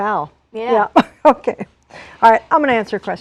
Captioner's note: laughs